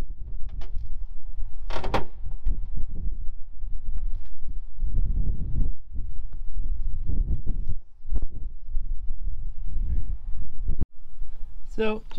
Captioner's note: wind blowing